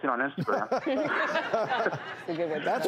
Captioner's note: laughter